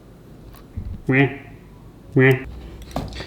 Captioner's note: quack quack